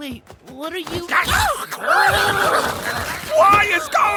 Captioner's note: screaming; growling